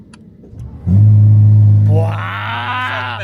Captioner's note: the sound of engine